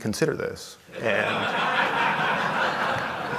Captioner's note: laughter